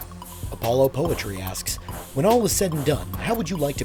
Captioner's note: voiceover